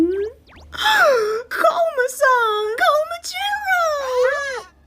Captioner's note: gasps